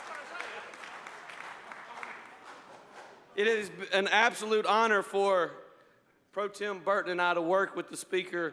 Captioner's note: applause